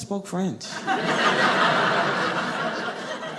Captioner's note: audience laughing